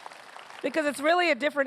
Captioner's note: applause